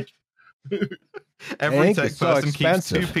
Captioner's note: laughing